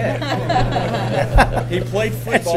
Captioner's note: laughter